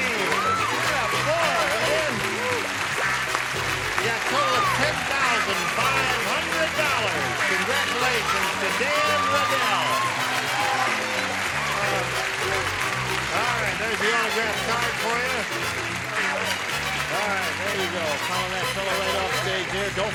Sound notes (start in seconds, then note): 9.7 applause